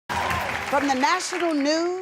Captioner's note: applause